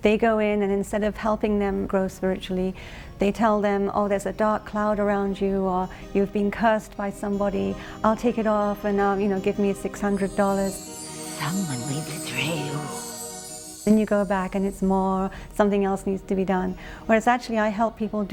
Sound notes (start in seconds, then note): 14.1 woman speaking in foreign language